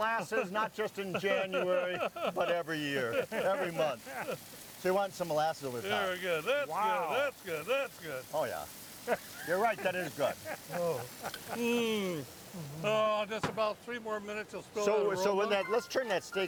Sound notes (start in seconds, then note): 3.5 chuckling; 9.0 laughing